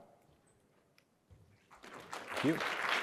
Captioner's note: applause